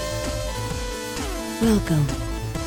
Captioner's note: robotic Voice